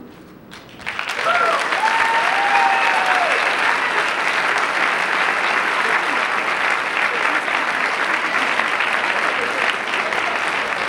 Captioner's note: applause